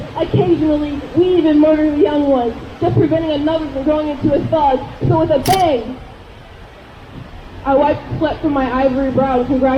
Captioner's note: none